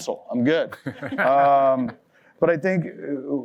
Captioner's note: laughter